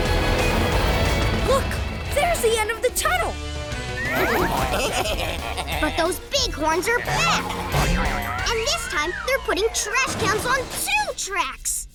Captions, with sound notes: Look, there's the end of the tunnel! [baaing] But those big horns are back! And this time they're putting trash cans on two tracks!